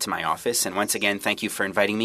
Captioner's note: speaking French